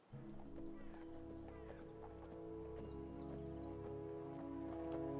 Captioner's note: horse hooves clomping